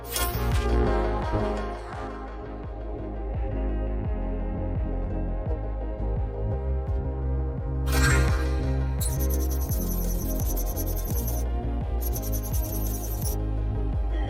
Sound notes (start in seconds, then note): 9.0 console beeps; 9.0 console chirping; 14.1 console beeps